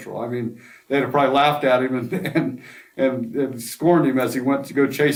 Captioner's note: laughs to self